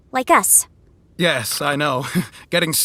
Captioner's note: laughs ruefully